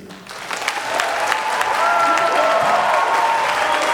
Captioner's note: applause